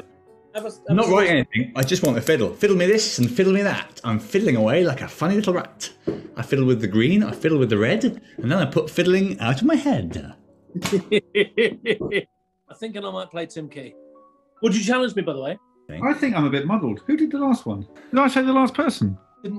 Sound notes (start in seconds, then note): 10.7 chuckling